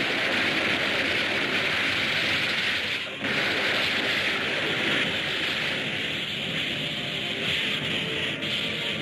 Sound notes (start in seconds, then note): 3.7 fire hissing